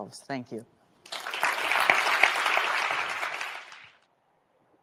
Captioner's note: audience applauds